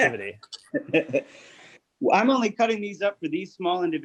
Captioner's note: laughing